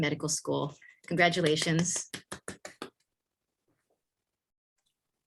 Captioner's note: clapping